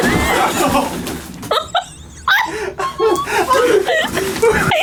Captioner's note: all laughing